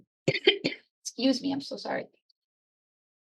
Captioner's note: coughs